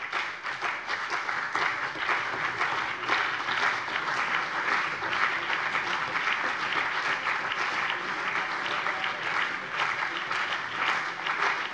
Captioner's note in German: Anhaltender Beifall CDU und BÜNDNIS 90/DIE GRÜNEN